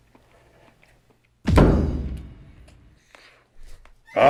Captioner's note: thud